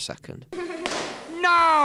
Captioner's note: children laughing; bang